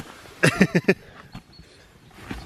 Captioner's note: laughs